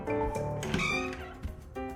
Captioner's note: door creaks open